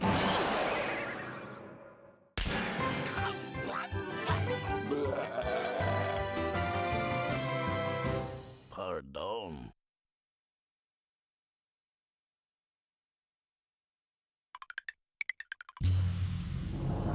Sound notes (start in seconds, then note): 4.2 growling